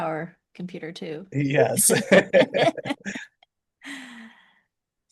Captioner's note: laughing